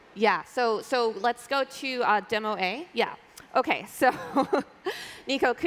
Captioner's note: laughter